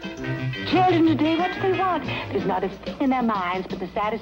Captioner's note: mumbling